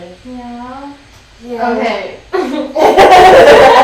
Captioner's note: giggling